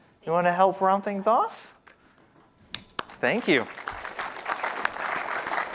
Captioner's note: applause